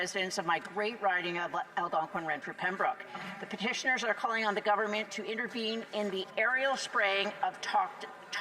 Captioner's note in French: voix de l'interprète